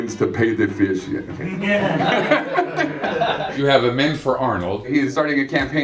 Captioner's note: laughter